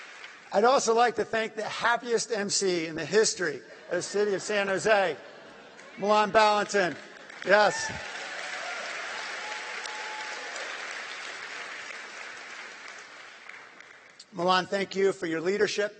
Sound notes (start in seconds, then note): 9.0 applause